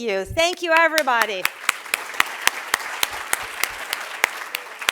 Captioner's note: applause